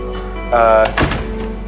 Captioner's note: door shuts